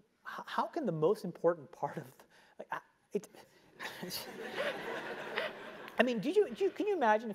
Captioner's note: laugh